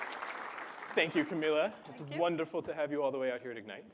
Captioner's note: applause